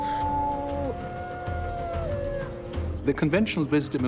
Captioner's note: howling